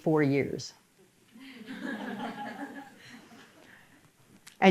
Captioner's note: audience laughter